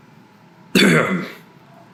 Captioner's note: coughs